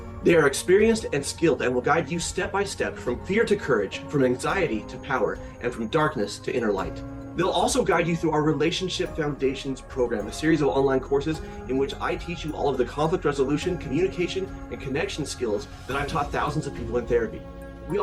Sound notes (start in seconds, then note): none